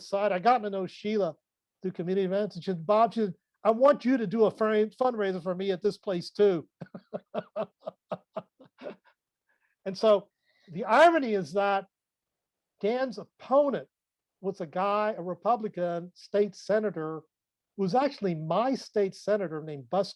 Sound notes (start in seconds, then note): 9.5 laughs